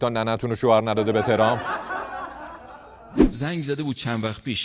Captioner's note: laughter